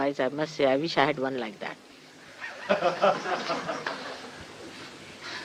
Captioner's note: laughter